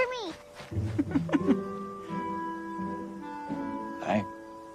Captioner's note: Elizabeth chuckles